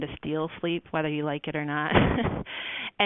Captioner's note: laughs